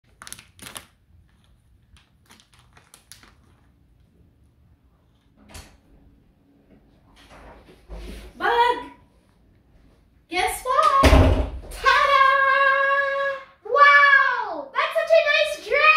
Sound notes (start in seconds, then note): 0.0 plastic crackling; 6.2 door rattling